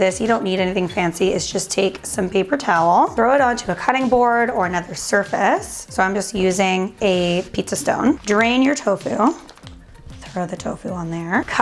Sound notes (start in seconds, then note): 9.5 rustling